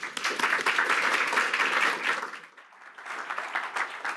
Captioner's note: applause